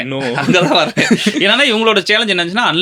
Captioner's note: laughter